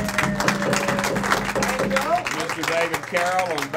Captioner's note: cheering